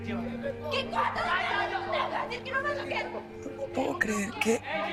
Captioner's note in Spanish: Gritos y exclamaciones